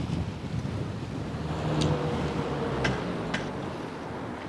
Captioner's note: traffic noise